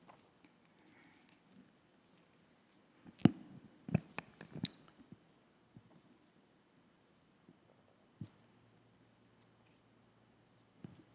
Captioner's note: moment of silence